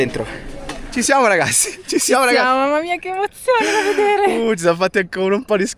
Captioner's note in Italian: risate